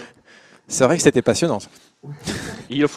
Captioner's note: laughs